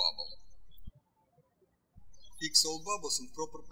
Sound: birds chirping

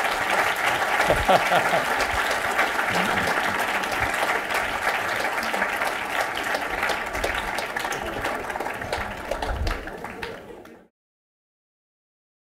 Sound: applause

